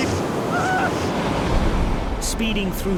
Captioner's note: waves roaring